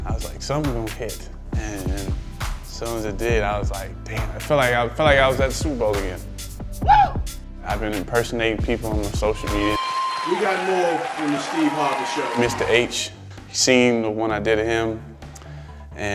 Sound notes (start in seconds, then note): 6.8 screaming; 9.7 cheers